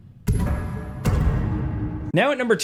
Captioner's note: graphics booming